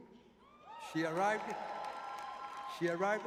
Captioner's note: cheering